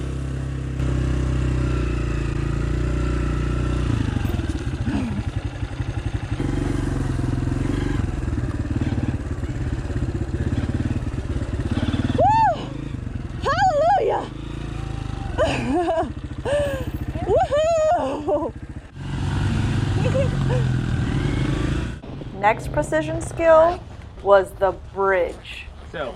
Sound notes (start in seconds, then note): 0.2 bike engines roaring; 4.8 grunting; 7.2 bike running; 15.1 cheering and laughing